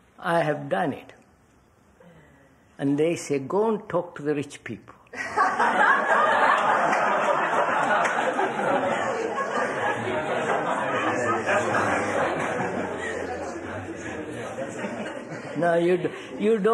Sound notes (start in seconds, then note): 5.1 laughter